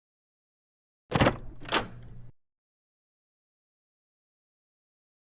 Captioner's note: door unlocks, swings open